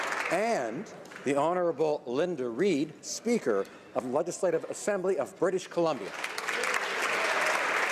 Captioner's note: applause